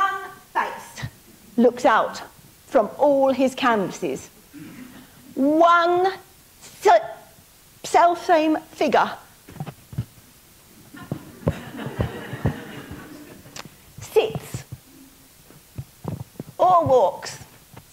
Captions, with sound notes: One face looks out from all his canvases, one self same figure. (audience laughing) Sits or walks,